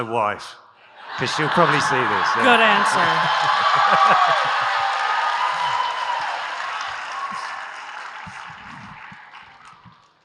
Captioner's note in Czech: Potlesk